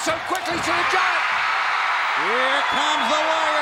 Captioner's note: crowd cheers